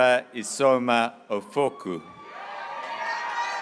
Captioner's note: graduates cheering